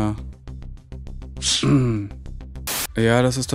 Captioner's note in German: Räuspern, Rauschen